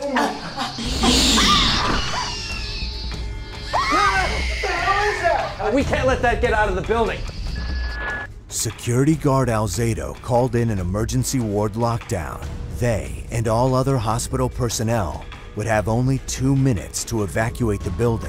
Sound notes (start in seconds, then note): 0.0 creature shrieks; 2.0 screams